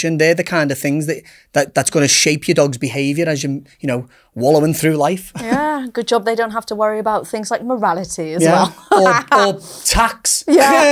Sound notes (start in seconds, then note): 8.5 laughs